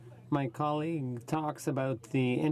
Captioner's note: speaking in french